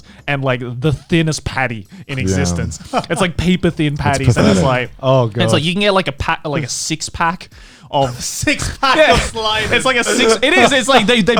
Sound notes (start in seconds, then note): 2.1 chuckling; 8.6 laughing